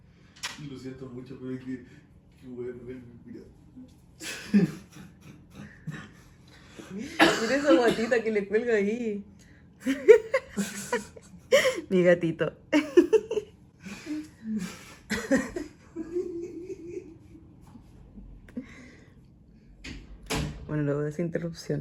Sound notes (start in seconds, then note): 9.8 laughs; 14.4 awesome laugh